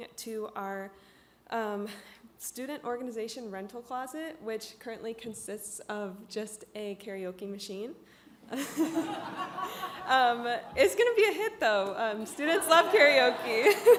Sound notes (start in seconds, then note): 8.6 all laugh; 12.5 all laugh